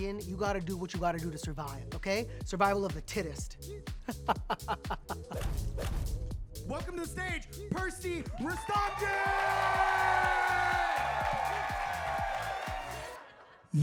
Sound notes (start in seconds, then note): 4.0 Percy laughing; 5.3 graphic whooshing; 8.2 audience cheering and applauding